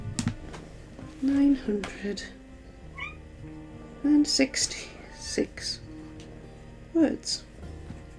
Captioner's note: meow